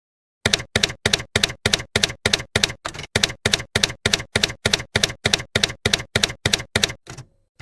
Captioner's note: typewriter keys clacking